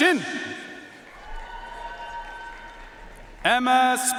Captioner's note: audience cheering and applauding